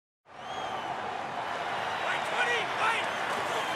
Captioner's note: cheering